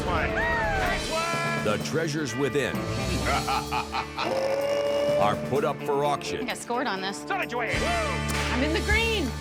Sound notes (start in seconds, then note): 3.2 laughs